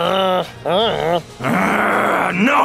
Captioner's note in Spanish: ruido "Eh." de trasgo